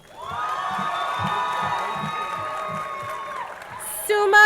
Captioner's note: crowd cheering